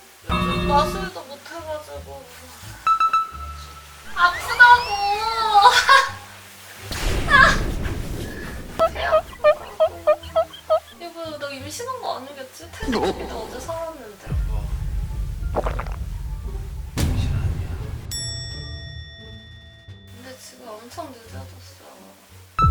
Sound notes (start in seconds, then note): 8.8 rub rub